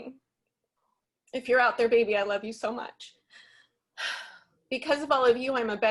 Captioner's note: exhales